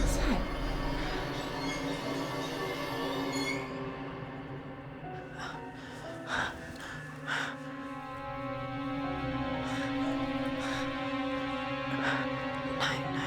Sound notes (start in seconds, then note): 0.0 sinister music; 0.0 wheels squeaking; 6.8 Claire breathing heavily; 10.4 suspenseful music